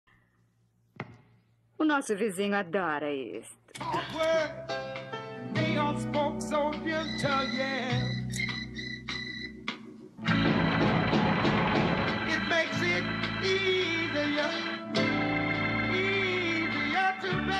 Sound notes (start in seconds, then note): 10.2 furrier thudding on wall in rhythm